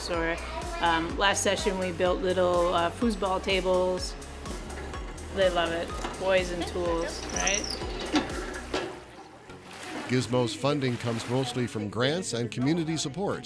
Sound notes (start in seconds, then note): 9.2 laugh